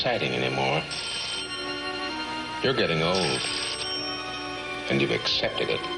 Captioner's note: doorbell rings